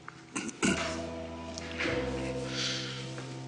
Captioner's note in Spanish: Gabriel carraspea